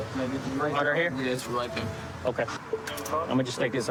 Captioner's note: handcuff click